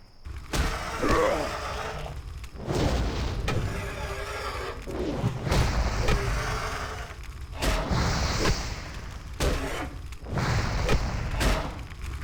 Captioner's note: gunshots